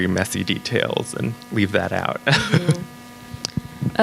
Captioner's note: laughs